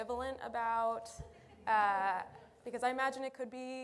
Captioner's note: laughter